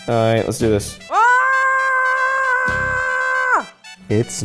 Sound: screaming

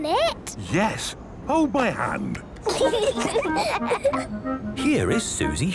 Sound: children giggling

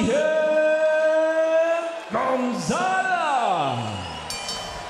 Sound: whistle

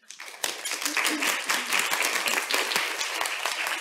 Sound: applause

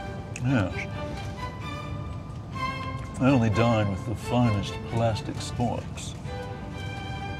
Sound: in British accent

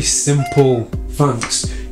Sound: squeak

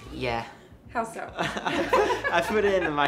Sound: laughs

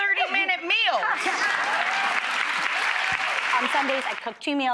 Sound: audience applauding

